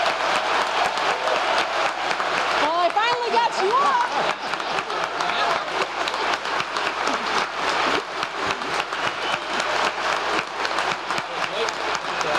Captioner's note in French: applause